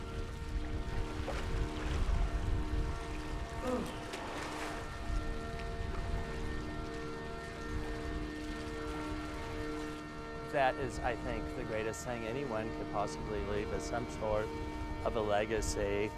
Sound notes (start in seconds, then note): 0.6 water splashing; 8.1 gentle music